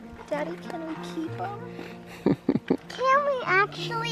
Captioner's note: gentle music; chuckles